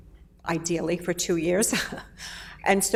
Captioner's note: laughs